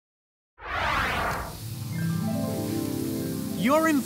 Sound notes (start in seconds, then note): 0.6 whooshing sound; 1.8 harp music